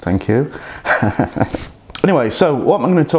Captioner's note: laughs